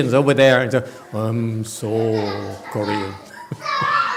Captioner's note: laughs